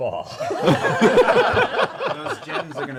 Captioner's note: laughter